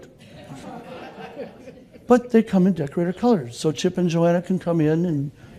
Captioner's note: laughter